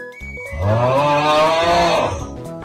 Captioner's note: horrifying yawn